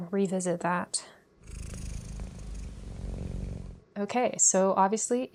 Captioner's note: cat purrs